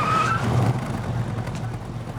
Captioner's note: tires squealing